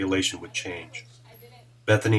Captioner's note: chatter